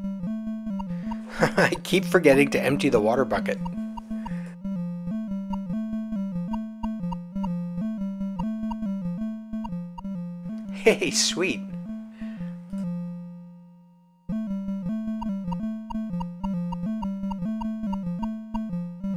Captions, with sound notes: [laughs] I keep forgetting to empty the water bucket. Hey, sweet!